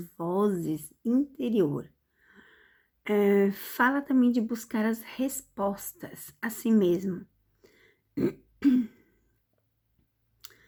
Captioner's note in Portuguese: limpando a garganta